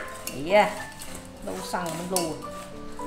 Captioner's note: Cantonese